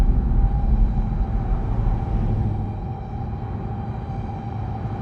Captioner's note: ominous music; engines revving